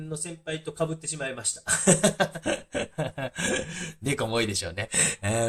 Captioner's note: laughing